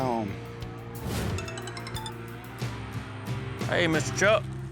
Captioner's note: cell phone rings